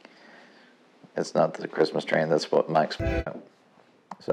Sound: train horn

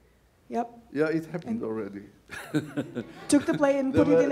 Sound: laughs

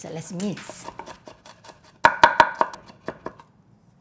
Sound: chopping

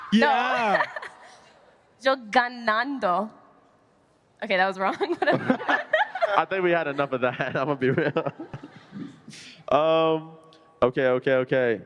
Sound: speaking Spanish

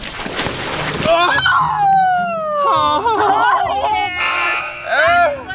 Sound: laughs

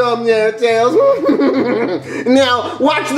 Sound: laughs

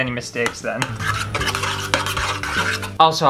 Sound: scrapey spoon sounds

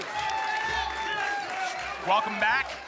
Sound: applause and cheering cont

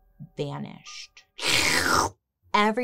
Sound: slurps

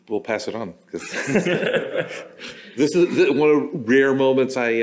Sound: laughter

